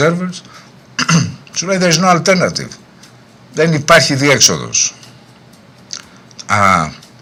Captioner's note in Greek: βήχας